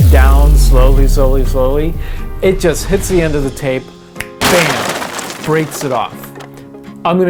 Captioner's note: weird slow motion sound effect; glass shattering